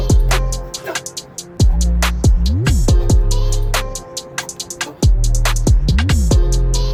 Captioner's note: grunting